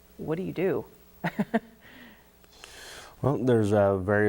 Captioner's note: chuckles